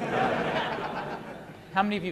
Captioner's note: laughter